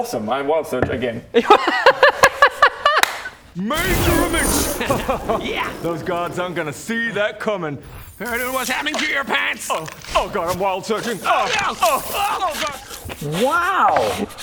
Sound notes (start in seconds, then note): 1.4 excited giggles